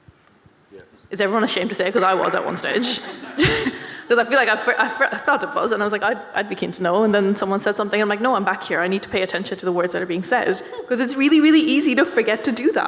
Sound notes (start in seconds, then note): 3.4 audience and panellists laughing